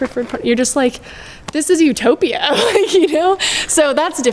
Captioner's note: laughs